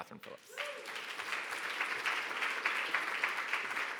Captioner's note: audience applauding